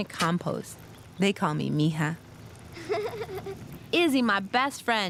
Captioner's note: warm laugh